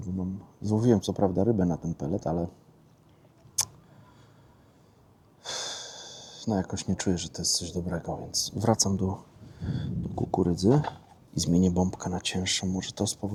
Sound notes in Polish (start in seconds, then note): 5.4 westchnienie